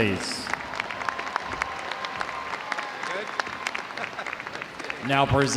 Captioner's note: audience applauding; audience cheering